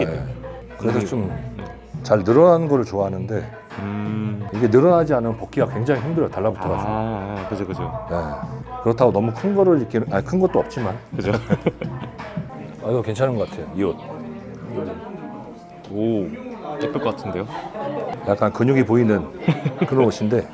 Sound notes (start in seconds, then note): 11.2 sad chuckle